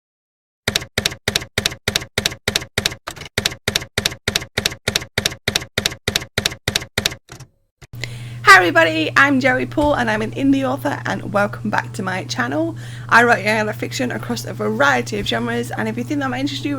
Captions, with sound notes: [TYPEWRITER KEYS CLACKING] Hi everybody! I'm Joey Paul, and I'm an indie author, and welcome back to my channel. I write young adult fiction across a variety of genres and if you think that might interest